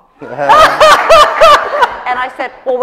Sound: laughter

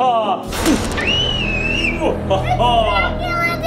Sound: child screaming

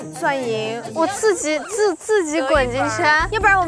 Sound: so shocked that she starts to stammer

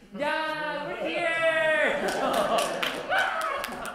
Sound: cheering and Applause

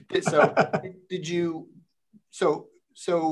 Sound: laughs

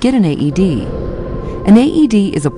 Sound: sound effects

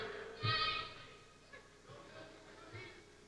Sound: shouting

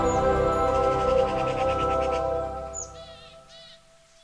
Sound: natural wildlife sounds

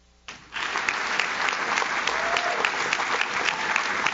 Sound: audience claps

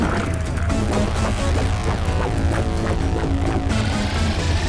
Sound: dramatic synth music; liquid sloshing; electricity buzzing; motor humming

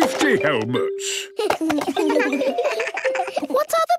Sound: giggles

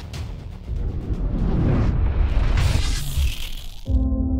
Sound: swoosh sound

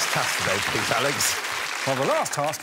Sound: all applauding

